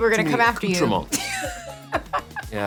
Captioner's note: laughs